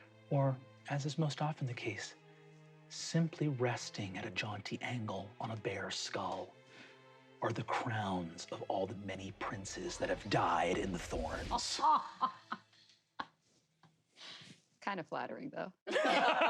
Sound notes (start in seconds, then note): 11.4 laughs, aghast